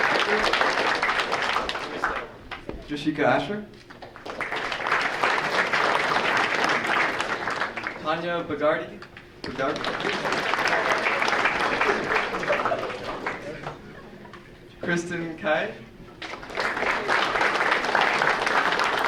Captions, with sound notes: Drshika Asher? (audience applauding) Tanya Bhargava? (audience applauding) Kristen Cai? (audience applauding)